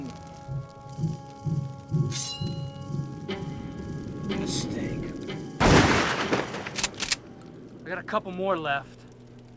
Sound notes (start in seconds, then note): 0.0 tense music; 5.6 gunshot bangs; 6.2 gun clicks